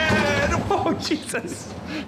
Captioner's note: thudding; laughing